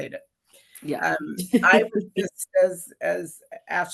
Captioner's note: laughs